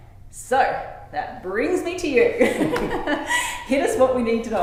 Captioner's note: laughing